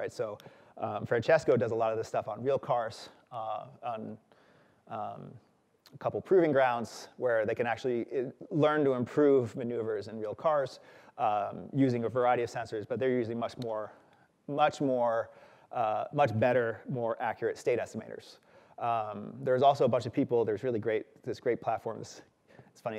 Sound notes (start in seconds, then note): none